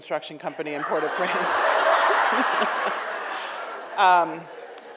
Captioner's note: audience laughs